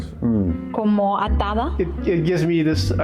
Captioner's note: non-english speech